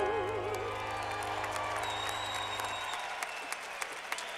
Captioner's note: clapping